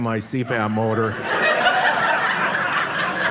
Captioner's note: audience laughing